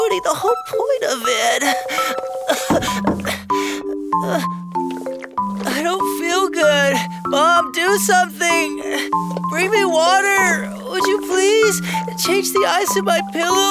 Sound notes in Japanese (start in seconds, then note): 2.6 コンコン